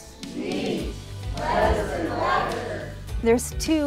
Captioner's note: all vocalizing